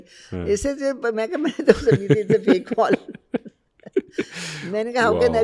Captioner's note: laughing